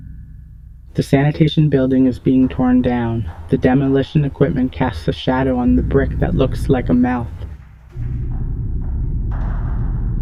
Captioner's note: rumbling sounds